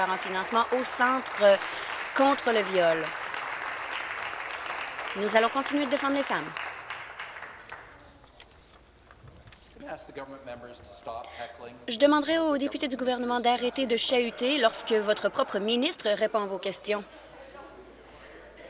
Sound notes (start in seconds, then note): 6.1 applause